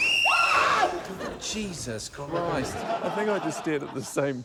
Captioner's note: laughter; whistle trills; screams